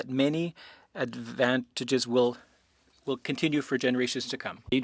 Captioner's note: speaking French